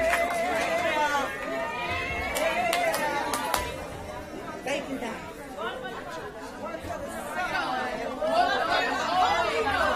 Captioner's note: applause; cheering